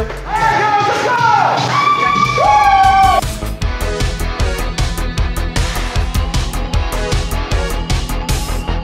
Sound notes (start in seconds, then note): 1.9 cheering; 3.5 upbeat music